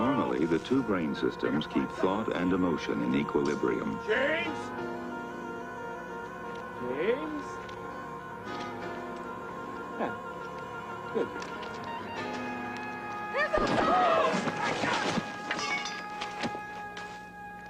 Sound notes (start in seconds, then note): 14.2 explosion